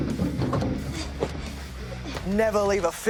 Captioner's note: vending machine thuds; woman grunting softly